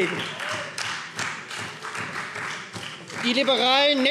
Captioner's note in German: Beifall Freie Demokraten